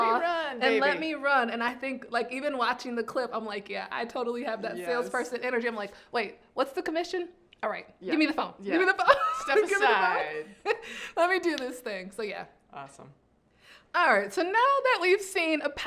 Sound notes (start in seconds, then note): 9.2 laughing